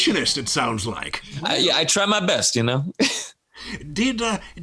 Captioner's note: laughs